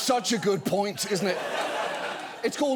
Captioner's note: audience laughs